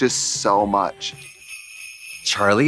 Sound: sleigh bells jingling

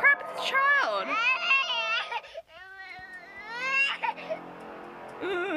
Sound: baby crying sounds from game

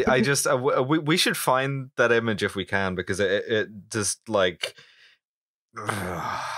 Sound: angry noise

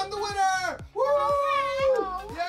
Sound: dad cheering

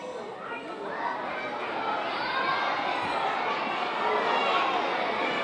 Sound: audience exclaiming

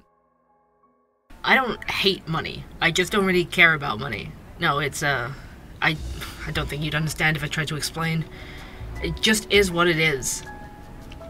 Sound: ambience - coffee shop

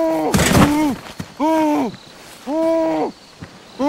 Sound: man groaning

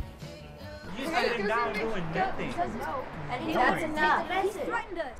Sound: group arguing

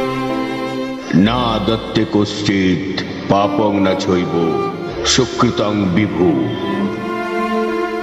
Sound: shloka in Sanskrit

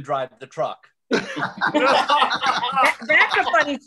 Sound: laughter

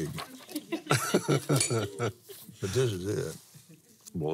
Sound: laughs

